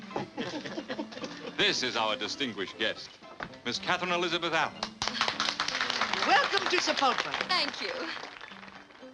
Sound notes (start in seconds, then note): 0.1 laughter; 4.8 applause